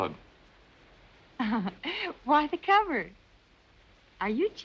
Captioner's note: giggles